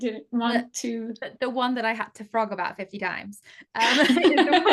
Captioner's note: laughter